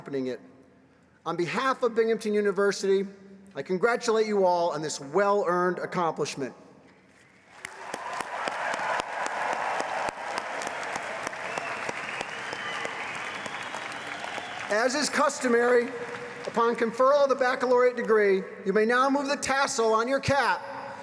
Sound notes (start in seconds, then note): 13.2 applause